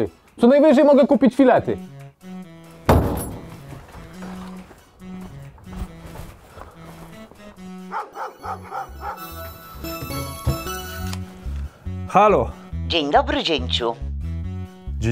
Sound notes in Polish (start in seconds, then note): 9.1 Dzwonek